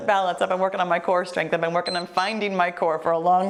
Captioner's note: timer beeps